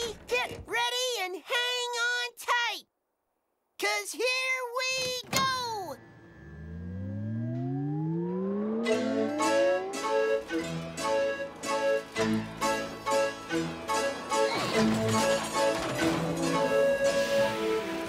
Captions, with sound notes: GET READY AND HANG ON TIGHT... 'CAUSE HERE WE GO! (CAROUSEL POWERS UP) (CAROUSEL MUSIC STARTS OFF SLOWLY AND THEN PICKS UP) (LOUD BANG) (MUSIC AND RIDE GRIND TO A HALT)